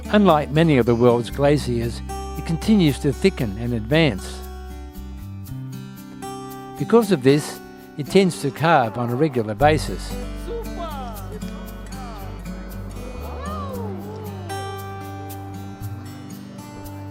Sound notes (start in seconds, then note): 11.9 crowd reaction; 16.5 background music